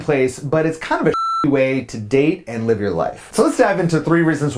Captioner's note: beep